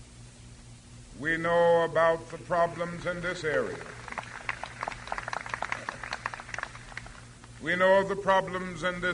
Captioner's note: applause